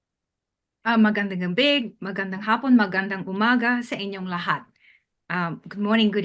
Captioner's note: speaking in foreign language